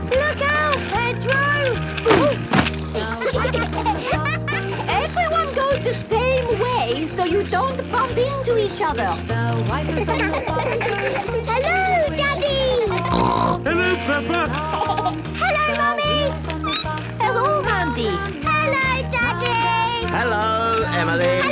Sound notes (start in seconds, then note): 2.9 laughter; 9.8 laughter; 12.6 snorting; 14.2 laughter; 16.7 squeaking